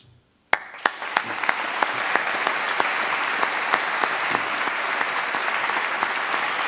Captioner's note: applause